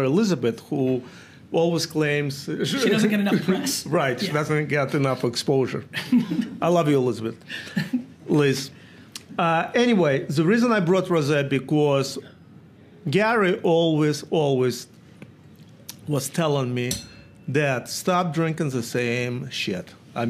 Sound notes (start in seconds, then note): 5.9 Gary laughs